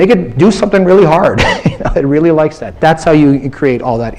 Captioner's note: laughs